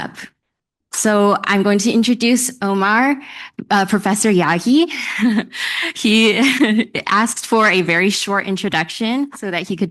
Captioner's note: laughs lightly